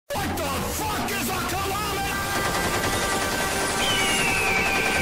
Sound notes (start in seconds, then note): 3.5 screech of freedom